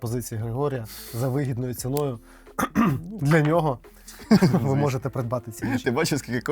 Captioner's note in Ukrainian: сміх